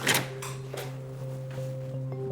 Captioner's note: gentle tense music; gloves snapping